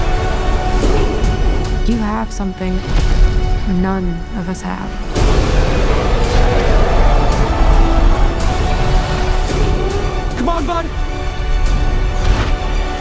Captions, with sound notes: You have something none of us have. [Roars] - Come on, bud.